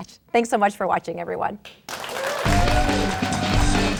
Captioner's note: crowd clapping